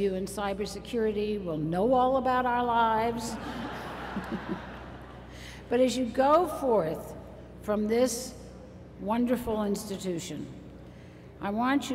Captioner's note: laughter